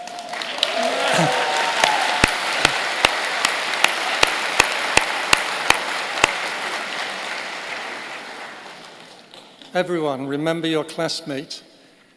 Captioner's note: applause